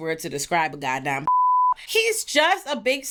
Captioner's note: beep